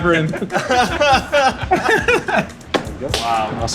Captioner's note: laughing